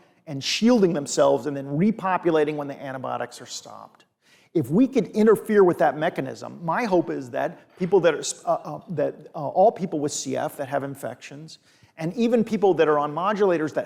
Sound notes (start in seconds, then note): none